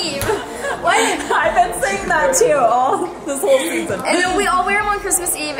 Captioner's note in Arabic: يضحك